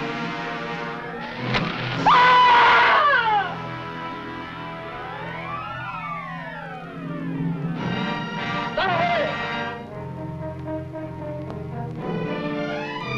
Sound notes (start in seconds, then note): 1.4 arrow whooshing; 2.0 Angelica screaming